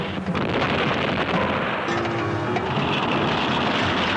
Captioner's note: explosions booming